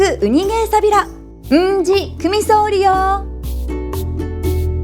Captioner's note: in Okinawan